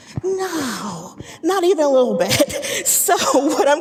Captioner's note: laughing